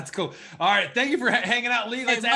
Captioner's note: laughs